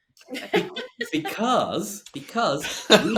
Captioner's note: all laughs